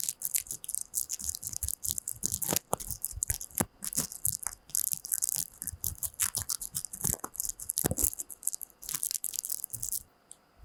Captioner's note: crinkle crinkle